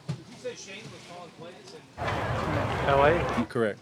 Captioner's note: crowd noise